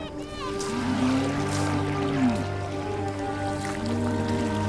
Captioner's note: cow noises